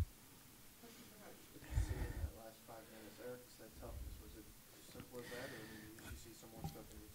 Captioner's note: man speaks off mic